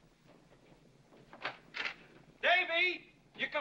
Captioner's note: door opens